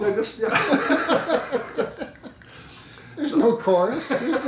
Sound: laughing

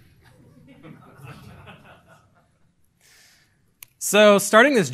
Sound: laughing

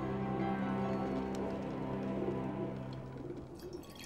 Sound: flames crackling

